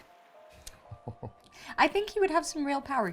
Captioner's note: laughs